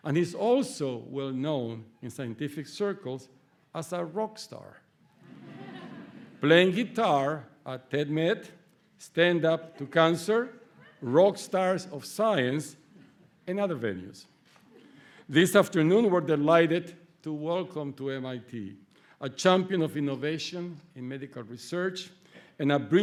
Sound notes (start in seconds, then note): 5.2 laughter